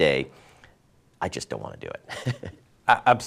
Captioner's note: laughs